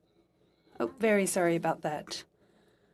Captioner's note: speaking in French